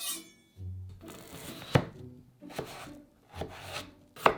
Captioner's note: knife cutting